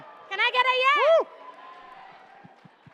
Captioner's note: cheering